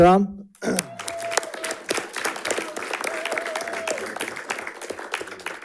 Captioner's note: audience applauding and cheering